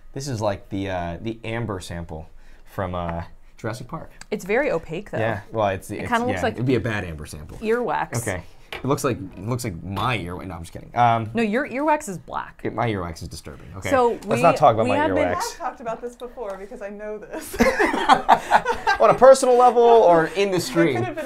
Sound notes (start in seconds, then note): 17.3 laughs